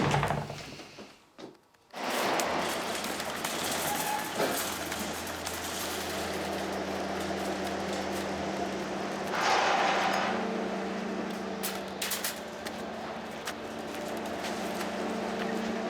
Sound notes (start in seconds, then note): 3.2 junkyard noises